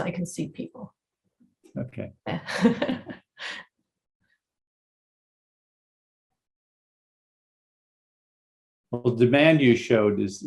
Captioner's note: laughter